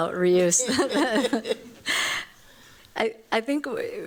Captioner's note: laughter